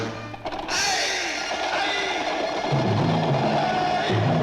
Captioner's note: Hercules yells